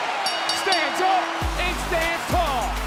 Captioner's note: bell rings